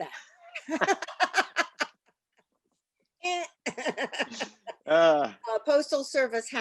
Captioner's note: laughter